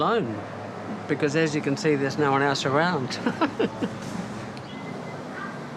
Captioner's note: laughs